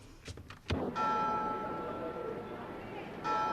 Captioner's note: bells